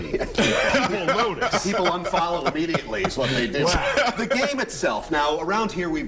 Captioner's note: laughter